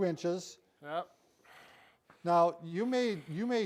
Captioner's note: exhaling